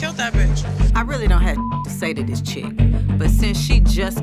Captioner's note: beep